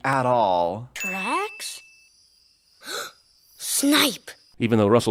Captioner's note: gasp